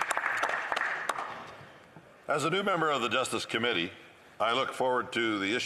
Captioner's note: some Applause